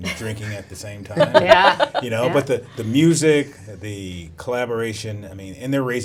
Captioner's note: laughs